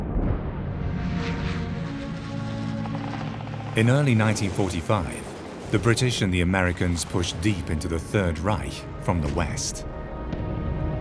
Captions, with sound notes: (planes whir) In early 1945, the British and the Americans pushed deep into the Third Reich from the west.